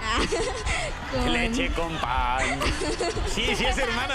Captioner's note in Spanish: risas; risas